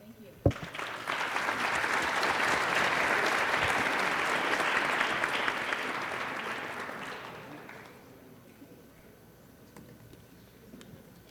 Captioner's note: applause